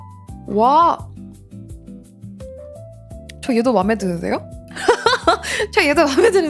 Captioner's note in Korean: 웃음